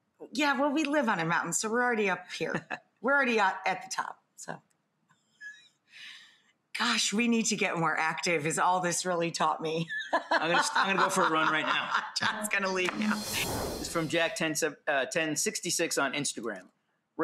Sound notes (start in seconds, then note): 10.1 laughs; 13.0 swoosh